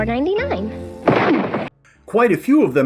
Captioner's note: crash!